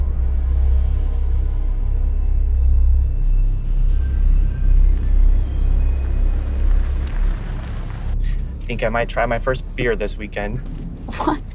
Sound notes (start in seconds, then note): 5.3 car passes